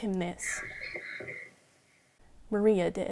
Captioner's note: children gasping